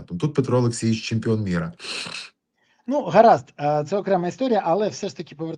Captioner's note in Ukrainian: сопіння